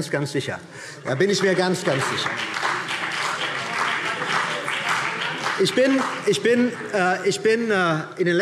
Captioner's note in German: Beifall